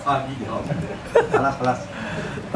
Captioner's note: laughs